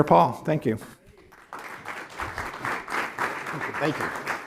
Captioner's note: applause